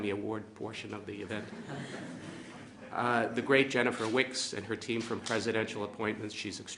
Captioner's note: laughter